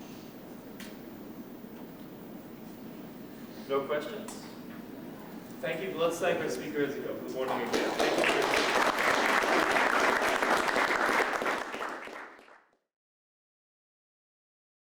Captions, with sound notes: No questions? Thank you. Let's thank our speakers from the morning again. [APPLAUSE]